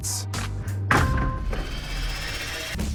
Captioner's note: thudding